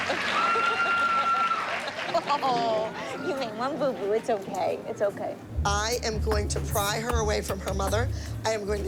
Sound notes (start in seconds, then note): 0.0 laughter